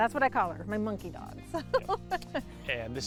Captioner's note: laughs